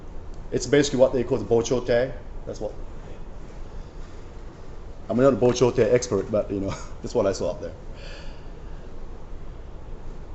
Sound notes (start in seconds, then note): 1.8 japanese; 5.4 japanese